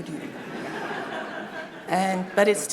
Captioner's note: audience laughing